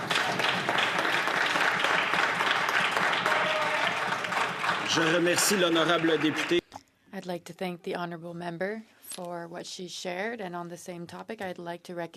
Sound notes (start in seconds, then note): 4.0 some Applause